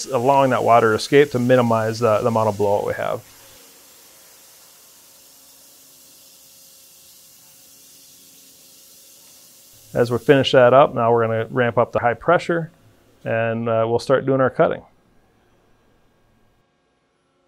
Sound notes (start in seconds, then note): 3.8 machine whirring sound